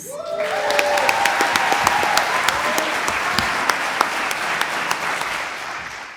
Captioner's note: audience cheers; audience applauds